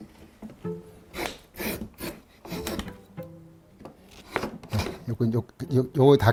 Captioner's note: planing sound